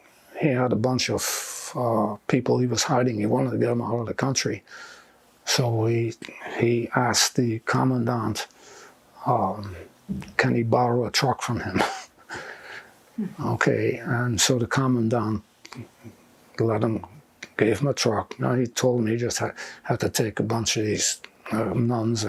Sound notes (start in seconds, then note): 11.9 laughing